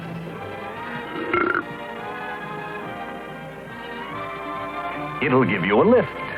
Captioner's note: burps